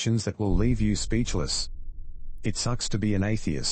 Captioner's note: electrical noise